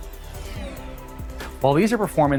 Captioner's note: swishing